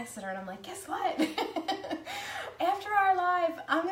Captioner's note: laughs